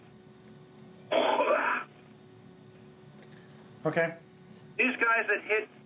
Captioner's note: mimics sound of splattering goo